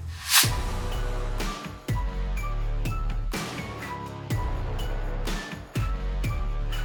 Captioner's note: air whooshing; energetic upbeat music